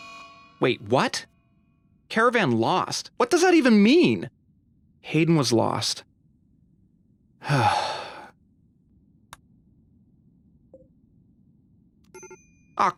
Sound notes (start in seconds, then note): 7.4 sigh